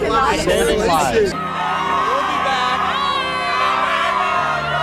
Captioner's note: crowd yelling